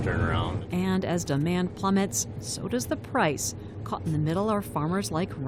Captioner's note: voice-over